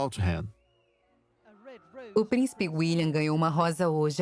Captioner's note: voiceover